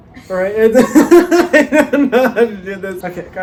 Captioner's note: laughs